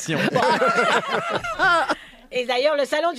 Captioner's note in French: rires